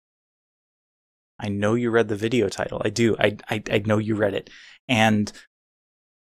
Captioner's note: stammers